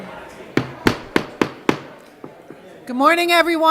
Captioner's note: gavel